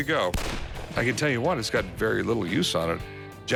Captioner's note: gunshot